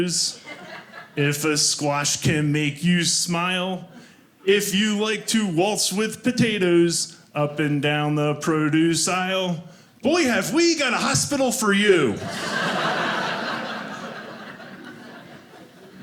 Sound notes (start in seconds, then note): 0.3 audience laughing; 12.1 audience laughing